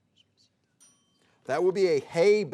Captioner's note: timer dinging